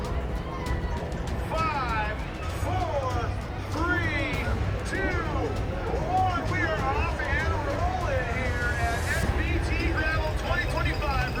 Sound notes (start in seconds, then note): 3.1 loudspeaker